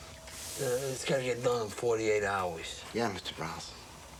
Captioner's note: none